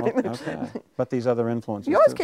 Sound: chuckling

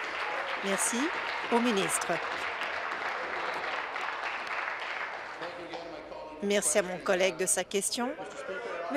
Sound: applause

